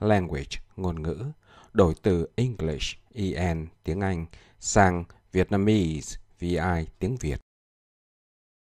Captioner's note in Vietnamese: Tiếng Anh